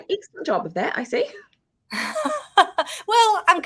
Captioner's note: woman laughing